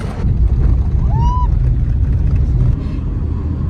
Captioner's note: screams excitedly